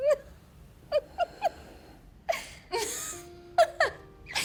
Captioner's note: Diana laughing